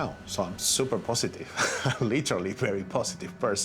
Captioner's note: laughs